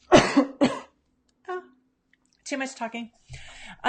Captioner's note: coughs